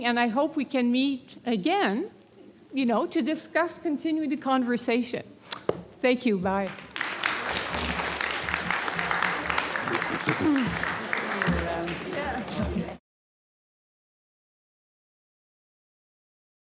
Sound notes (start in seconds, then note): 6.6 applause